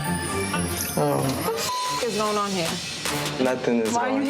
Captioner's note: beep